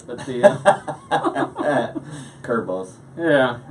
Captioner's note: laughing